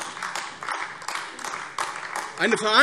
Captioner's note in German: Beifall AfD